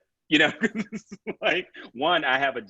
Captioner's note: laughs